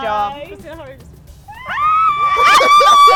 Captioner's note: light screams; laughter